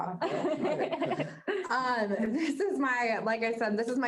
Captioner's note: group laughing